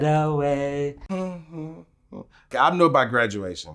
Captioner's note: humming